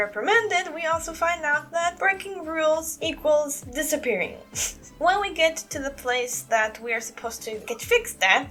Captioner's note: chuckle